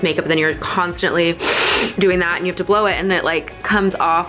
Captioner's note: wheezing